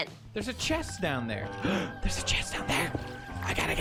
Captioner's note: gasps